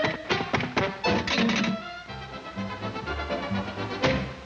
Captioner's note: pipe clanging